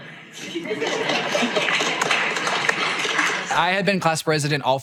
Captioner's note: audience giggles and applauds